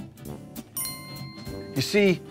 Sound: bell rings

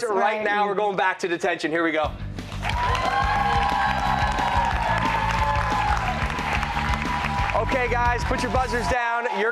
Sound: cheers and applause

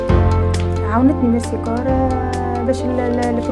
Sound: non-english speech

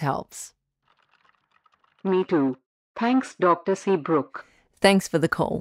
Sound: background SFX: Keyboard typing

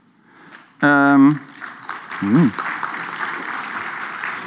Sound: audience applause

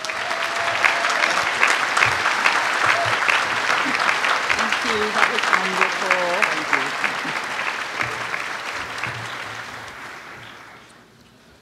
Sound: applause

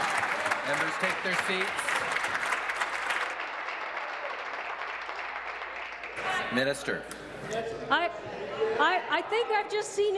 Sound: applause

